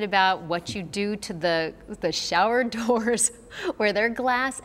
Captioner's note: chuckles